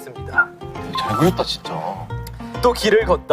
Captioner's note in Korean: 감탄